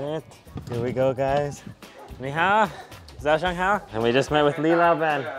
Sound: speaks in foreign language

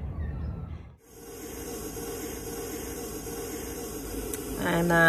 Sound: there is a hissing sound

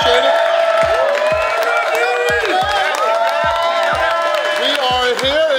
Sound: crowd applauding; crowd cheering

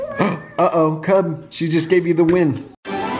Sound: laughs; gasps; magical music

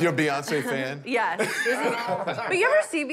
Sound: laughter

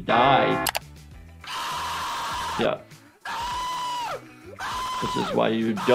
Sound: vlogger screaming

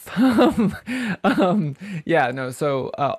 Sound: laughs

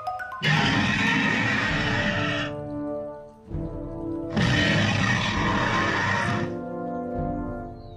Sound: Indominus Rex roaring in the distance

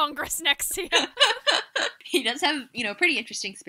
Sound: laughter

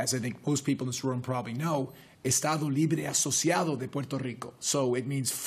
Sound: spanish

